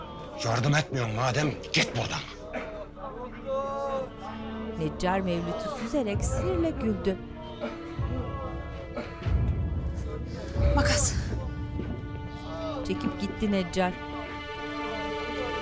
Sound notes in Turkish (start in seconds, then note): 4.7 İnleme sesleri